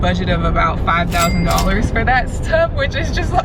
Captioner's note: cash register rings